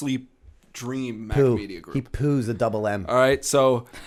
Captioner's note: chuckle